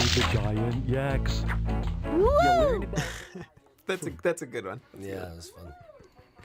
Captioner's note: laughs